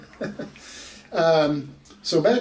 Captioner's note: laughs